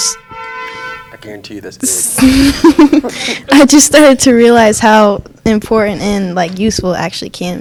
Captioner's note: laughs